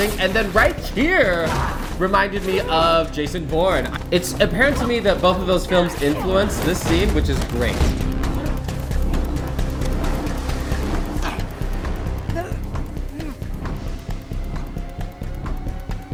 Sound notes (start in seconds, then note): 8.7 intense music; 12.3 Black Widow grunting